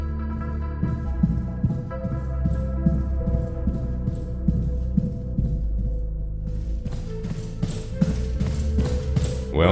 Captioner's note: footsteps